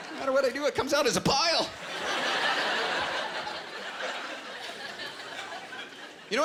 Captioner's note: laughter